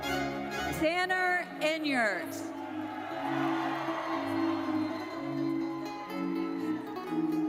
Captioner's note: audience cheers